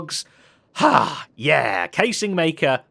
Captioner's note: sighs